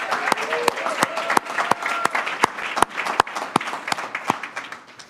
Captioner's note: audience applauding